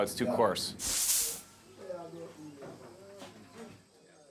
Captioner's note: indistinct chatter